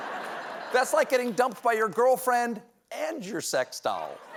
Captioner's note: laughter; applause